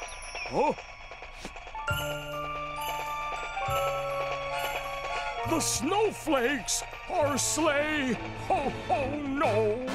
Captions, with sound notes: Huh? (soft music) (train tracks clattering) The snowflakes... our sleigh! Ho-ho no...